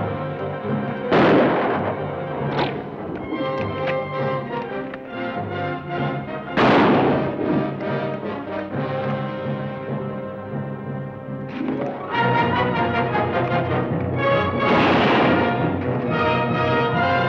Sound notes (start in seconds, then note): 1.1 gun fires; 2.5 bow twangs; 6.5 gun fires; 12.3 dramatic orchestral music; 14.5 gun fires